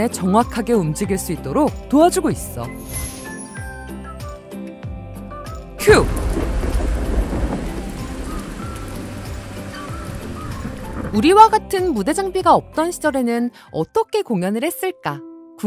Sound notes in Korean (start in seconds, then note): 5.8 빗소리